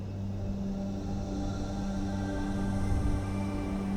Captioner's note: meditative music; heavy winds